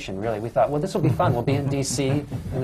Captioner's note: laughter